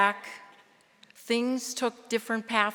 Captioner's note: none